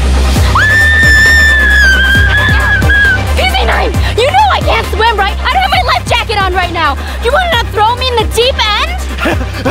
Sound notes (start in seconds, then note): 0.5 screaming